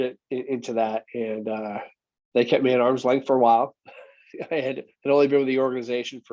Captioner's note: chuckles